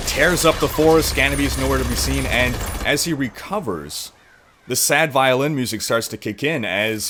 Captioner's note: rapid gunshots; gunshots stop